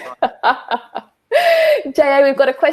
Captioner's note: laughs